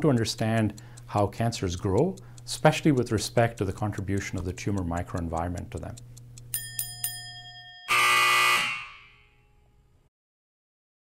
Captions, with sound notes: We want to understand how cancers grow, especially with respect to the contribution of the tumor microenvironment to them. [BELLRINGS] [BUZZER SOUNDS]